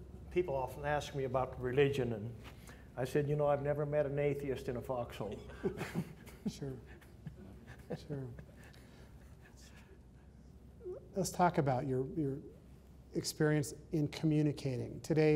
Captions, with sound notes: - People often ask me about religion and I said you know I've never met an atheist in a fox hole. (laughter) - Let's talk about your experience in communicating.